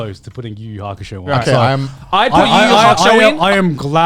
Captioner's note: both mumbling